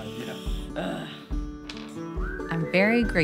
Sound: both laughing; grunting

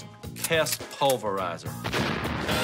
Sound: explosion

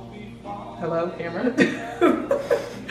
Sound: laughs

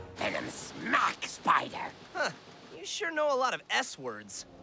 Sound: none

